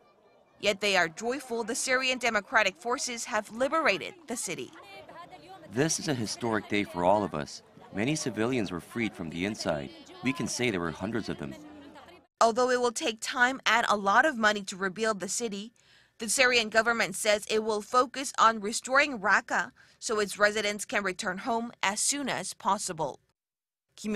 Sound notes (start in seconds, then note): 4.8 Arabic